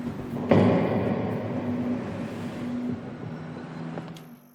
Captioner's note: door bangs